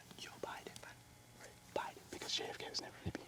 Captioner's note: whispering